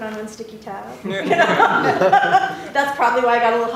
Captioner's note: laughter